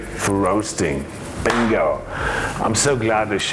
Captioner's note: claps